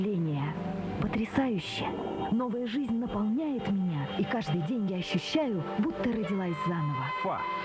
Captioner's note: scream